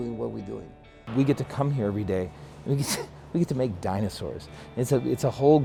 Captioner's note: laughs